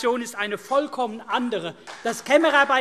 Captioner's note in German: Beifall CDU und BÜNDNIS 90/DIE GRÜNEN